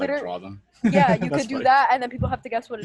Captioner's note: laughs